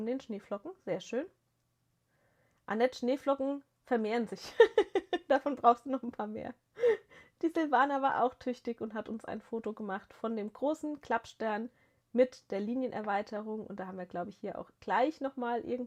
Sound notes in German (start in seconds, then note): 4.4 gelächter